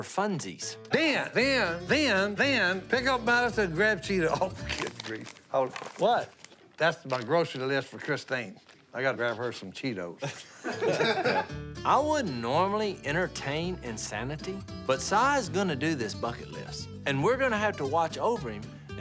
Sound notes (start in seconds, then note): 10.2 laughter